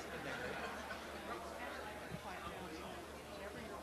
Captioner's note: audience milling